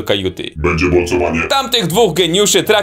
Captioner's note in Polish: głosem robota